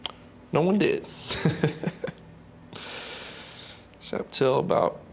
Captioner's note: chuckling